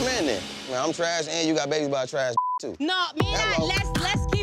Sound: beep

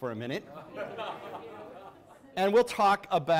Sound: audience laughs

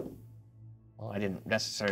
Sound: die thuds

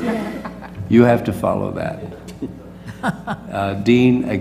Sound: laugh; laugh

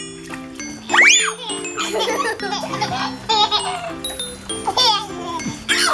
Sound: laugh Voice

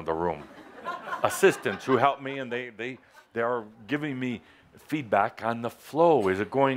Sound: laughter

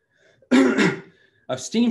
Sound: clears throat

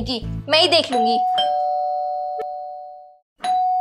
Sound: door Bell Ringing

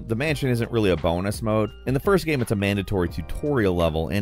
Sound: none

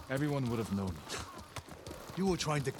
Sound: laugh

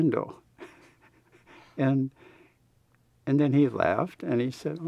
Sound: laughs

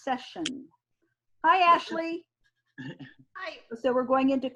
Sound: man laughs

